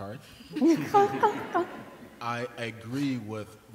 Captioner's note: laughter